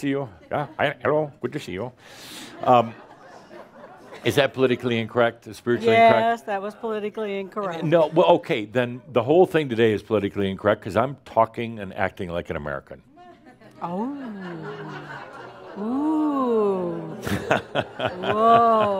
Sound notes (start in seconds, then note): 4.1 mimics Indian accent and some chuckles; 13.3 some laughter; 18.7 Adamus laughs